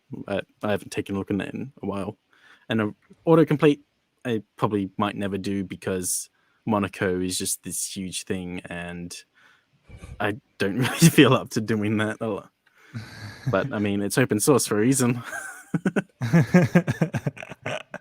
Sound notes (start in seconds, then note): 12.9 laughs; 15.1 group laughs